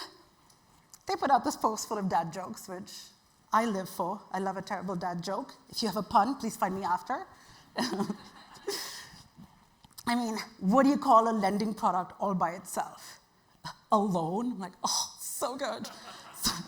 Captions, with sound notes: they put out this post full of dad jokes, which I live for. I love a terrible dad joke. If you have a pun, please find me after. (chuckles) I mean, what do you call a lending product all by itself? A loan. Like, oh, so good. (audience laughing)